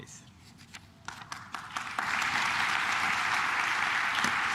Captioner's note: claps